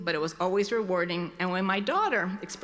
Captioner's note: none